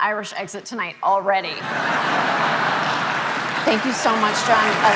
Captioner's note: audience laughing